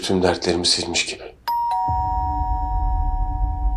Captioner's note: doorbell rings